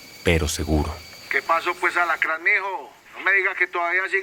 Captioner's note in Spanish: Voz en la radio